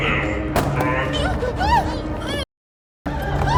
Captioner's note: Mia moaning